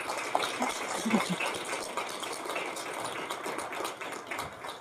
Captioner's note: audience clapping